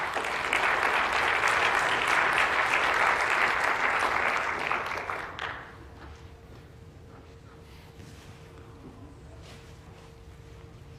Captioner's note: applause